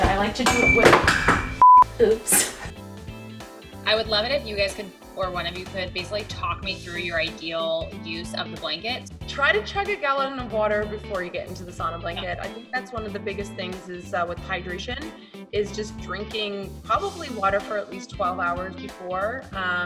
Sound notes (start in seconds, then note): 0.0 item falling and clanking; 1.5 beep